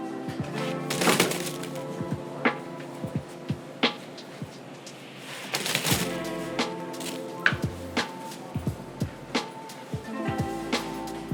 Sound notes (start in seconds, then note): 0.8 bagels crashing into cardboard box; 5.5 bagels crashing into cardboard box